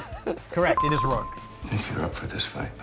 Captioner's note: bell dinging